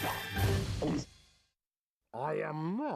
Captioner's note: gulping